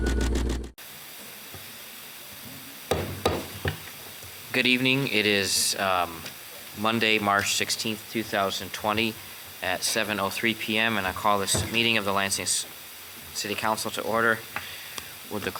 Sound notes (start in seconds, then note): 2.9 gavel pounding